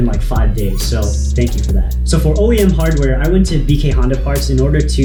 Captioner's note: exhaust